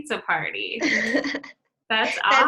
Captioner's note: laughter